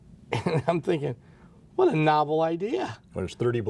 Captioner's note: laughs